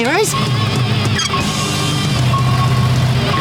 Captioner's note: beeping